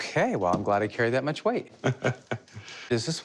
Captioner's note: laughs